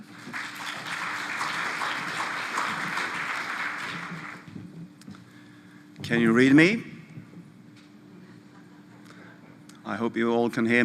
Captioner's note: applause